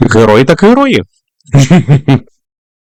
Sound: giggles

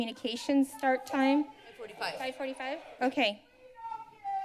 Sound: protester shouting

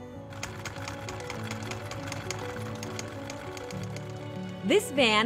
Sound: film reel clicking

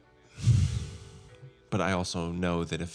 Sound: sighs

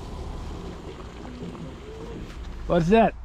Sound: gas hissing

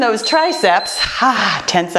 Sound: timer beeps

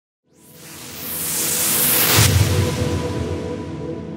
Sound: whooshing

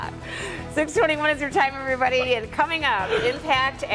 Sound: laughter

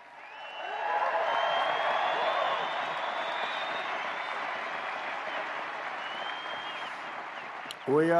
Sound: applause

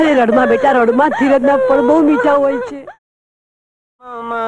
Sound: crying

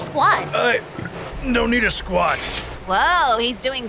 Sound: burp

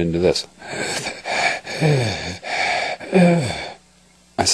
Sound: breaths heavily

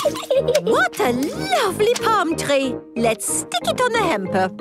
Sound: giggles

